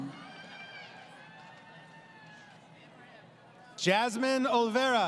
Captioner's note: crowd Cheering